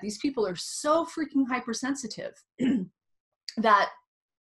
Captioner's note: clears throat